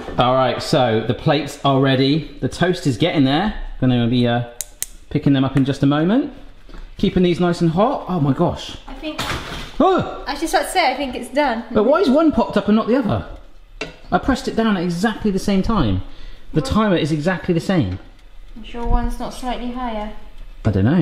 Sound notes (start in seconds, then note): 9.5 bread pops; 9.9 exclaims